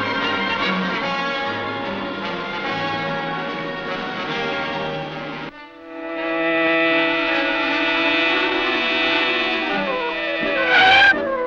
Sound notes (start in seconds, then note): 6.1 car buzzing; 7.7 dramatic orchestral music